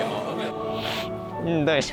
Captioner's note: sobbing